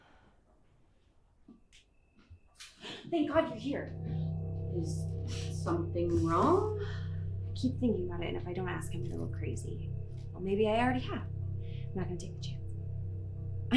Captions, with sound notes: (gasps) Thank god you're here. Is something wrong? I keep thinking about it, and if I don't ask I'll go crazy. Well, maybe I already have. I'm not gonna take the chance.